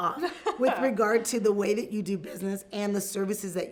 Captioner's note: laughs